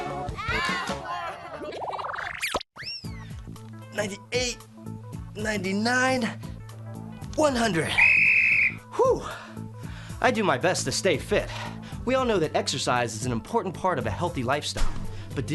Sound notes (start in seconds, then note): 1.2 kids giggling; 7.9 whistle blowing